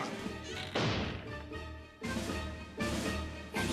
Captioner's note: door slams